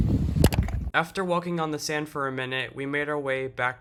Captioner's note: voiceover